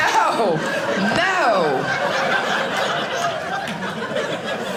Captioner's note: audience laughing